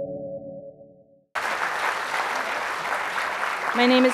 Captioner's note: theme music; applause